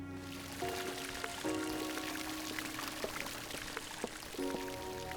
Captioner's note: water gurgling, splashing